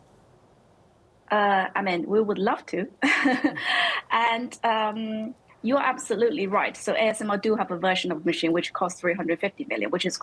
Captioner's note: laughter